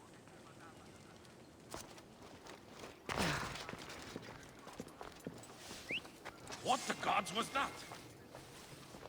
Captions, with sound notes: (whistle) What the gods was that!?